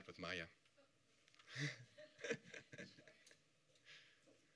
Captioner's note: laughing